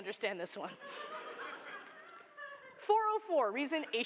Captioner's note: laughter